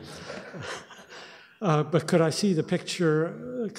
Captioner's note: audience laughs